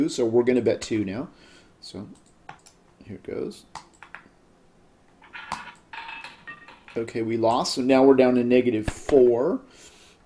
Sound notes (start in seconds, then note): 5.2 ball rolling